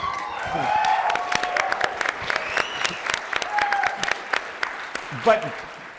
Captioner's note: applause